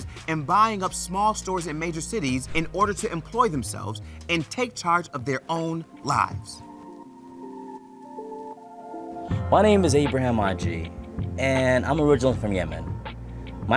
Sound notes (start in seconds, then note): 3.6 transition whooshes; 6.3 hopeful chill music